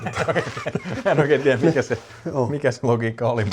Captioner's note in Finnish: naurua